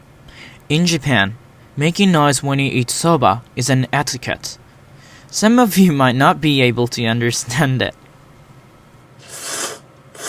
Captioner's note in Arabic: صوت أكل سوبا